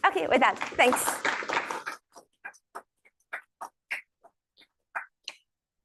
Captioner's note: applause